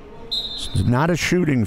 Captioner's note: referee blows whistle